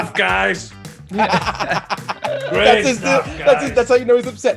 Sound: laugh

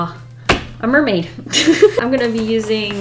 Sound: laughs

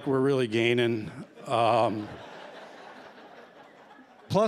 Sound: laughter

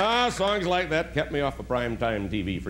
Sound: applause

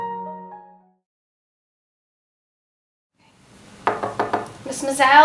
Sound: knocking on the door

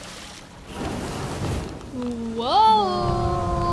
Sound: water pouring; thud

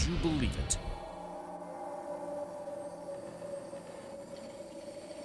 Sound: spooky wind blowing

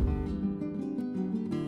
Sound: in Hawaiian language

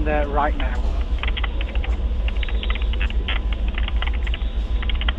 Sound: keyboard clacking

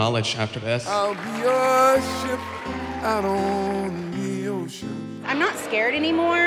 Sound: applause

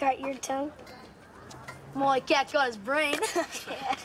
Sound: laughs

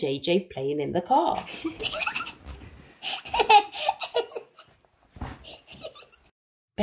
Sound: children laughing

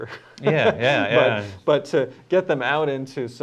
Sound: laughter

